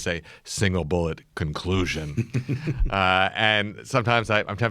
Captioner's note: laughs